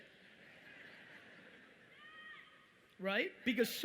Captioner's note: audience rumbling